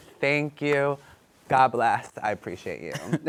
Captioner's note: both laugh